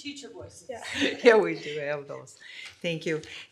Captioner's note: laughing